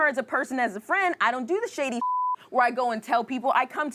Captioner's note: beep